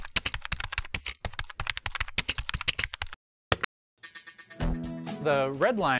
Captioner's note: sound of typing